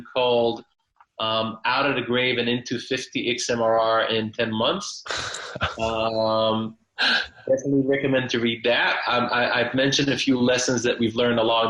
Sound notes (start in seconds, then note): 5.0 chuckling